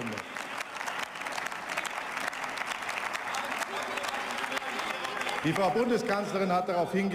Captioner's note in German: Beifall